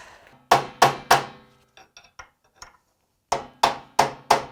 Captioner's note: hammering